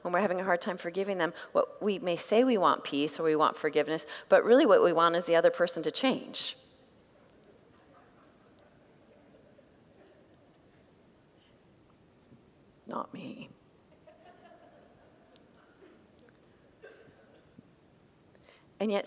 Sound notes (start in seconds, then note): 11.0 congregants laugh